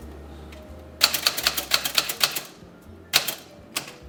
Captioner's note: typewriter clicking